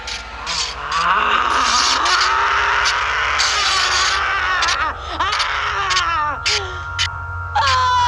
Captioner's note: grr, grr, snarl growl, rrrroar; scream